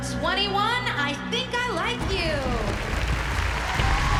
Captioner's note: cheering